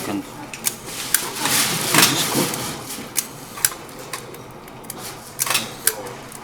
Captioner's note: lots of clicking and whirring noises